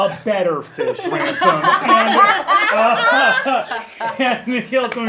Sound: all laughing

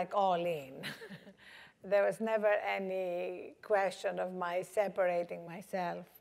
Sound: laugh

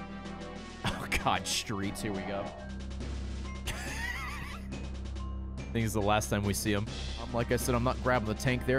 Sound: laughs

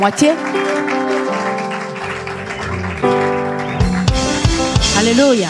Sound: applause

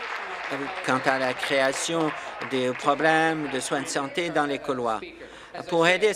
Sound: applause

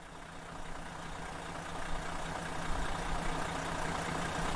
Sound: car engine sputtering

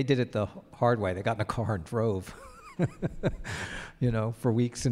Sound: chuckles

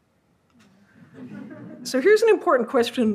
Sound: audience laughs

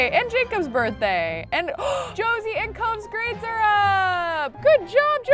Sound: gasps

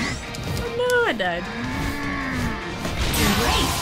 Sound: Charizard growls

